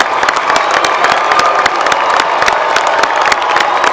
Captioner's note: applause